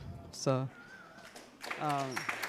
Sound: applause

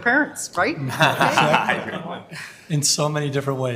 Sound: members laughing

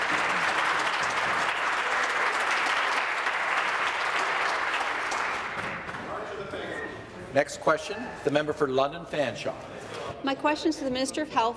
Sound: applause

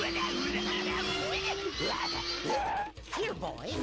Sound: growling

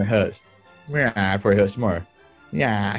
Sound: sniggering; brays

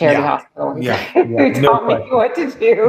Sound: laughter

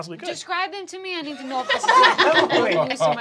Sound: laughing

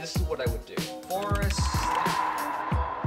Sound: typing

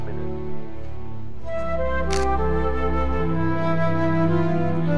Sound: camera shutter

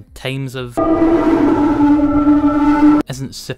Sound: distortion

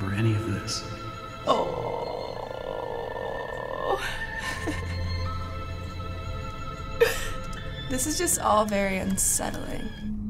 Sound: groans

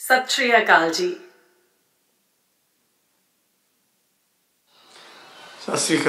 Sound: woman speaking non-English greeting

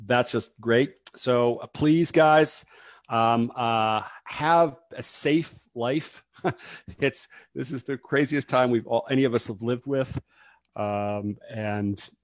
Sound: laughs

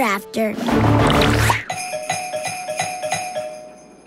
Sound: ringing doorbell

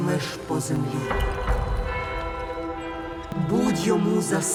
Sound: church bells ringing

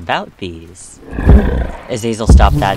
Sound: loud slams

